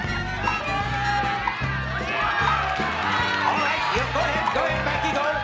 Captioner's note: cheering